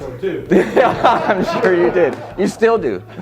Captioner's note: audience laughing